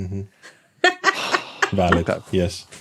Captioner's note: sighs; laughs